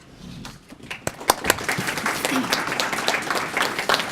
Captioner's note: applause